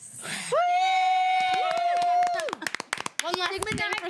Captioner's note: all cheering